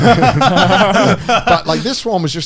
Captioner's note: all laughing